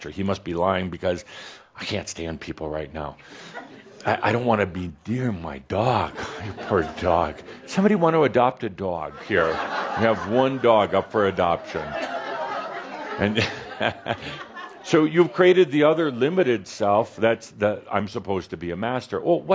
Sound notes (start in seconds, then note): 9.3 some chuckles; 12.6 more laughter